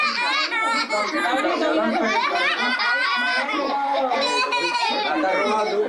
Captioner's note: laughter